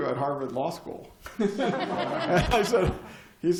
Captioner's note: laughter